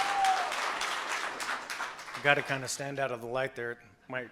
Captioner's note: cheers and applause